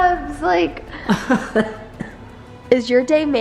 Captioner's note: laughs